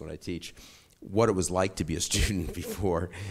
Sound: chuckles

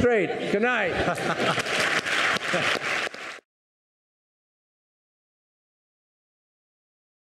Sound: laughing; audience applauding

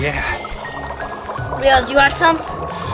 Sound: bubbling

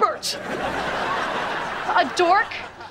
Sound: laughing

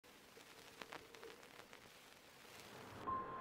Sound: vinyl record crackling

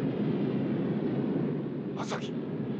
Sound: speaking japanese

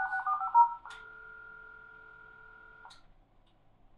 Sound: click

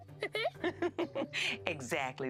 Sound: chuckles

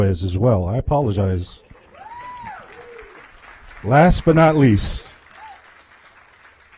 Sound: applause

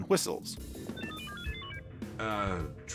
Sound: beeping

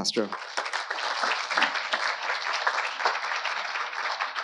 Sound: audience applauding

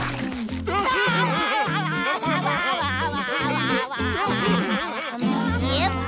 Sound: laughing

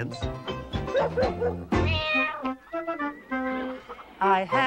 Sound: barks; cat meows

